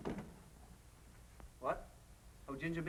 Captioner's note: door opens